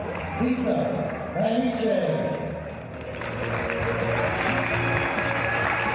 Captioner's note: applause